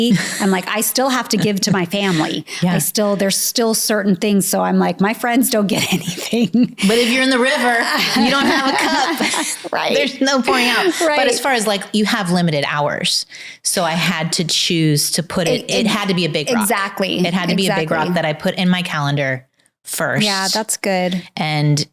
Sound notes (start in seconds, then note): 5.8 laughs